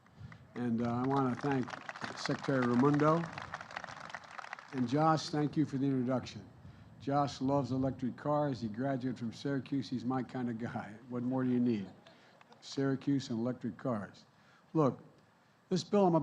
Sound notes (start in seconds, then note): 0.0 applause